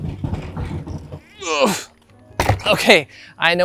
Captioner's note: grunting